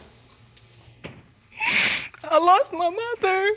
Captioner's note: crying